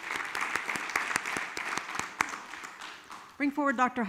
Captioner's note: all clap